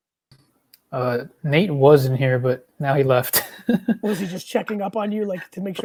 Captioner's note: chuckles